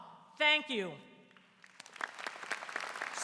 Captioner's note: applause